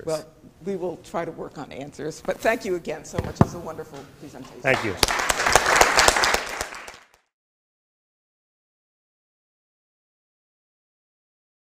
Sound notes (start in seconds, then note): 4.6 applause